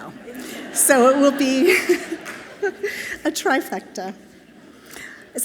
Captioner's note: chuckles